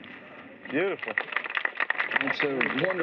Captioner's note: applause